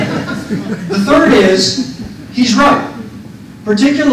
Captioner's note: laughter